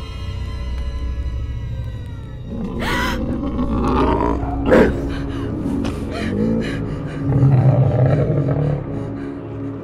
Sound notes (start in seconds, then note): 3.0 heavy breathing